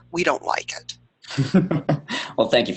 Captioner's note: chuckle